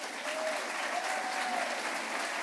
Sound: applause

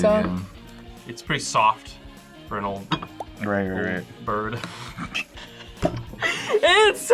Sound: laughs

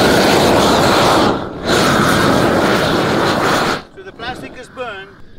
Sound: air whooshes against plastic

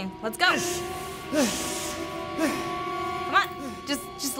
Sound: heavy panting

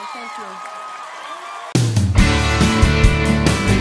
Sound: cheering

